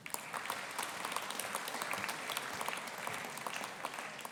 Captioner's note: audience applauding